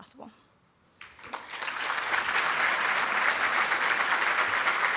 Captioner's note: applauding